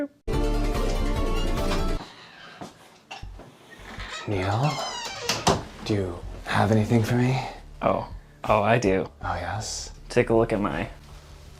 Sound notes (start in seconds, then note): 0.3 legally Distinctive Theme Music; 4.1 whispering